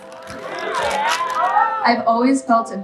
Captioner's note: audience cheering